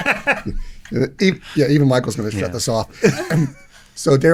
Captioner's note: laughing